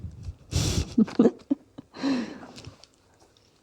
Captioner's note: laughter